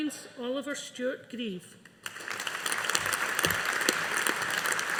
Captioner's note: audience applauding